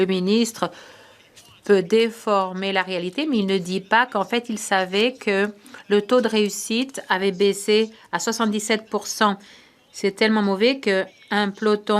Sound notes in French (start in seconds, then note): 2.2 voix de l'interprète